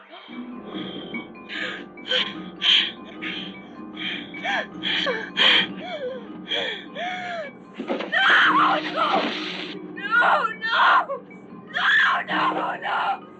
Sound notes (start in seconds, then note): 0.1 tense music; 3.9 woman whimpering; 8.1 screaming